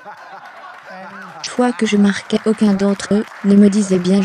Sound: laughter; applause

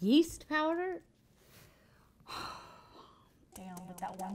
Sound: sighs

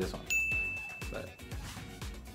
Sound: bell chimes

